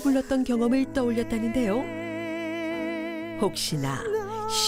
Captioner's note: voiceover